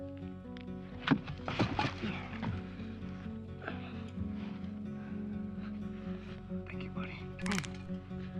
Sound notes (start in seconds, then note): 1.6 wood clatters; 7.4 bones crack